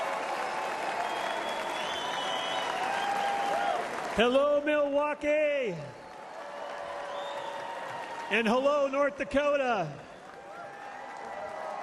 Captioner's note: applause